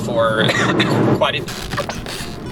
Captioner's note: cough